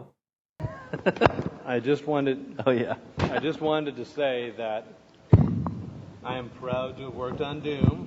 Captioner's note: laughs